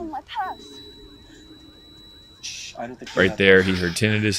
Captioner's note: high pitch ringing